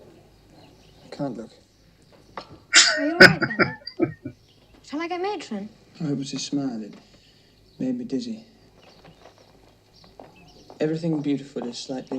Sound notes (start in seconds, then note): 2.7 chuckling